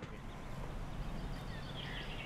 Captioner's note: birds chirping